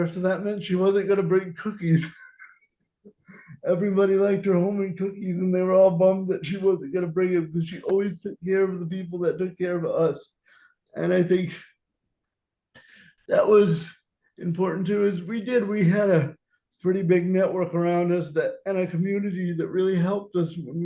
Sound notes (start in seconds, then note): 1.8 laughing